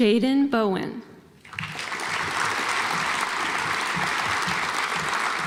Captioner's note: audience applauds